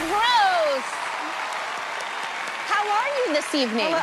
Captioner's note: cheers and applause